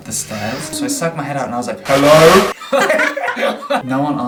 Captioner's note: laughter